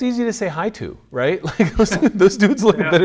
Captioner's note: laughs